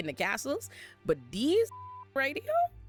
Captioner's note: beep